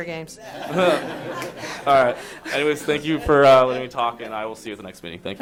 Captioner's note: laughter